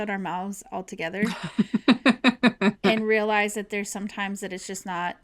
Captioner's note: laughter